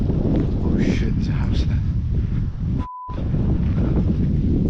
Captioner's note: beep